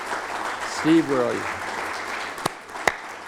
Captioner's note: applause